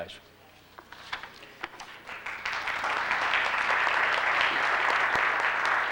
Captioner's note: applause